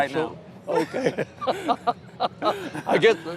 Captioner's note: laughs